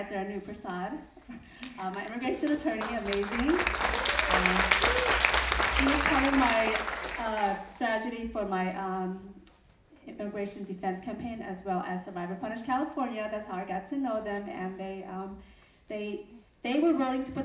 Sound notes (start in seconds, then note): 3.4 audience applauding